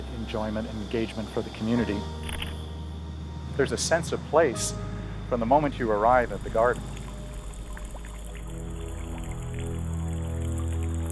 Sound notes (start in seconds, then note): 2.2 camera shutter clicking